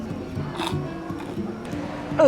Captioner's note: slurps